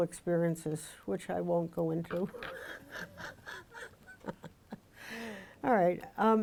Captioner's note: laughs